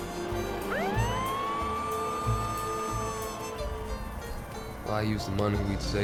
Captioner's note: police car motor starts, sirens wail